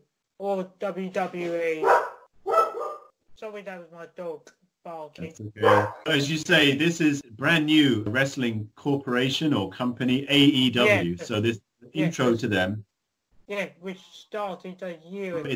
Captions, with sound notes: Or WWE *dog barks* sorry that was my dog barking. that's okay. As you say this is brand new wrestling corporation or company AEW, so this intro to them Yes which started a year ago